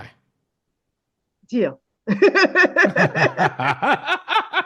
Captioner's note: laughs